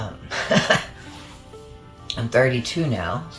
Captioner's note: laughs